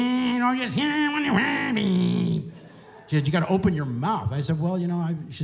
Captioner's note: Mumbles like Bob Dylan